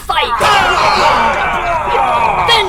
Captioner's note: Klingon cheers